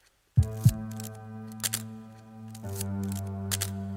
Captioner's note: camera clicks